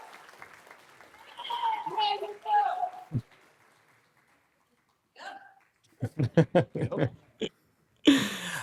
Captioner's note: cheering